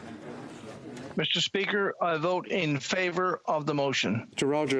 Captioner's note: speaking FRENCH